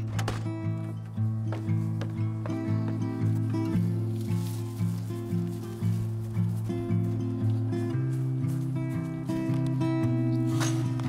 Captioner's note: sounds of door shutting, footsteps over music